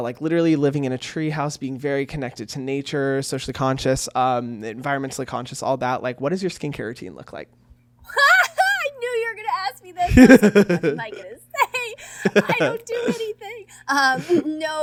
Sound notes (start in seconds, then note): 10.0 laughing; 10.0 Hyram laughs